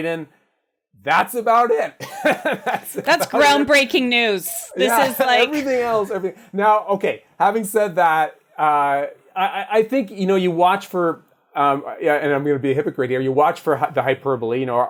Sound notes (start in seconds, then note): 2.0 laughs